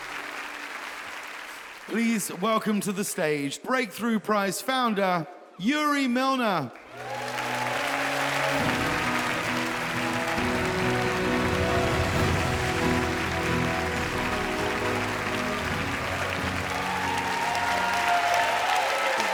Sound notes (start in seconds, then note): 7.6 audience applauds; 8.8 wondrous music; 11.1 audience applauds; 16.2 audience cheers